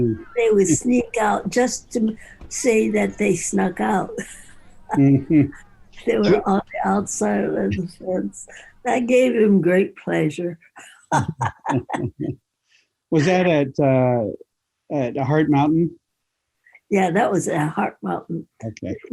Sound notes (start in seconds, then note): 4.9 both laughing; 10.9 both laughing